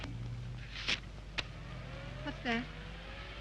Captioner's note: paper tears